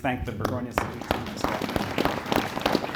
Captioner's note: audience Applauding